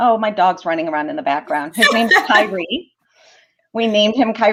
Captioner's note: laughter